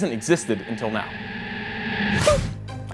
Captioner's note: suspenseful sound